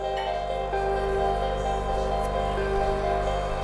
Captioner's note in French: Bruit de machine à café